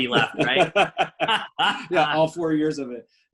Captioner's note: laughing